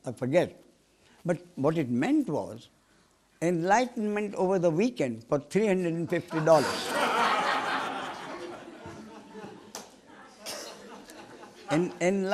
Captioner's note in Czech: smích